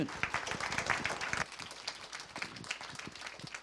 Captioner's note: applause